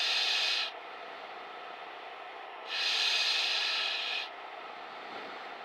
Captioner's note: wind continues whistling